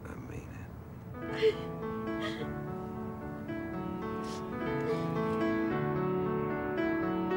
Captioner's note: Caroline laughing and sobbing; melodic orchestral music